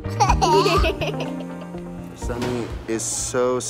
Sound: children laughing

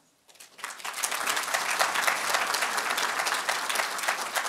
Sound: applause

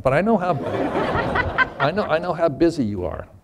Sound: laughter

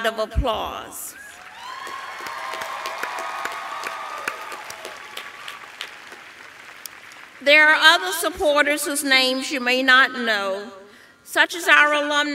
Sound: applause

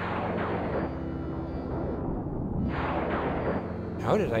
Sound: lightning crashing

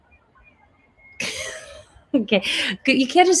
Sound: laughs

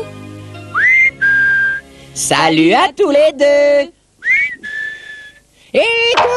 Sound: ils sifflent

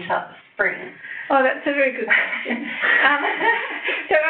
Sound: laughs

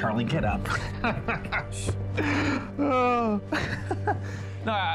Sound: Charlie laughs

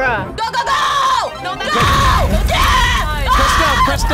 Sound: screams

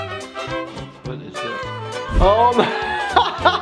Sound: upbeat music; laughs

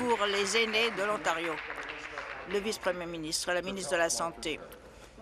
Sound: applause

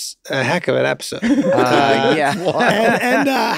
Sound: laughing

